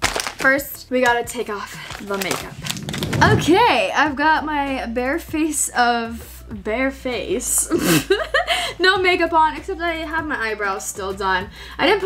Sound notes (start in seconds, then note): 7.4 laughs